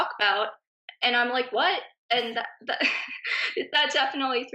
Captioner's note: laughing